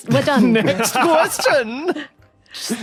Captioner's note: laughs